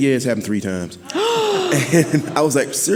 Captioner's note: gasping